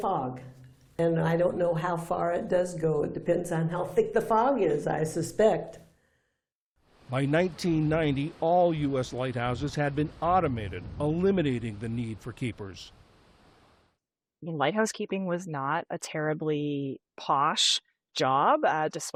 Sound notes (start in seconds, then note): 7.6 voice-over